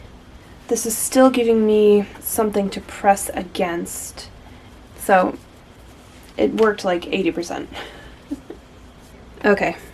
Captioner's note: chuckles ruefully